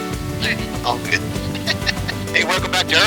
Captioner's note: laughing